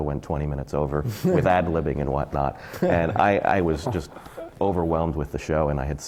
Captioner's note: laughter from the panel